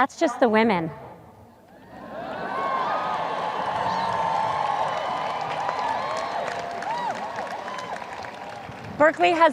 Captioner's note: audience cheers